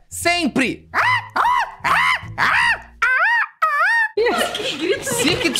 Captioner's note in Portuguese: imitando a gralha